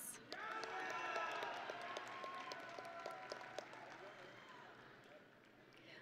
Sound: audience and graduates cheering

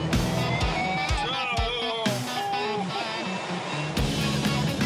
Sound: mumbling under breath

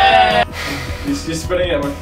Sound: cheering; blowing

